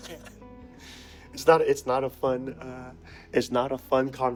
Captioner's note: laughter